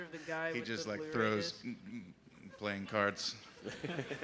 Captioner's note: laughter